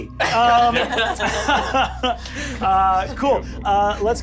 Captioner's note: laughing